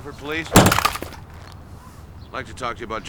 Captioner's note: wood clattering